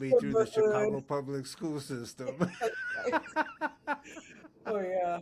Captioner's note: laughing